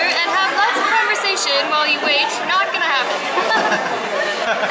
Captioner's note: laughter